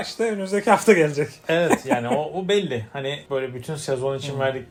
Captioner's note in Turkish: kahkaha